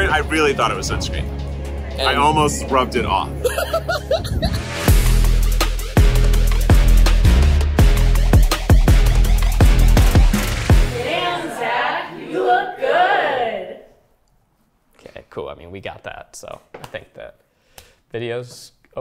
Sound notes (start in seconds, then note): 3.4 laughs; 4.9 upbeat bouncy music